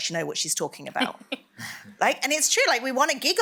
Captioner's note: laughter